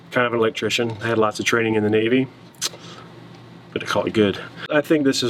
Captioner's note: none